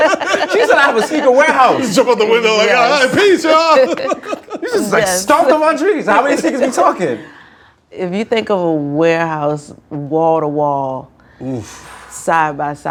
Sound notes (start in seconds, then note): 0.0 laughter; 3.7 laughter